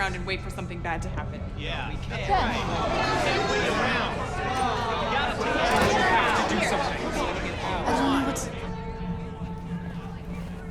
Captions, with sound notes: for something bad to happen. [angry chatter] - George, you have to do something. - I don't know what to--